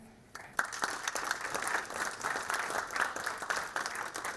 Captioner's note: audience applauding